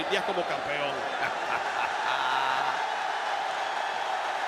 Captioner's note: laugh; applause